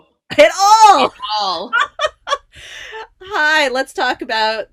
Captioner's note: giggling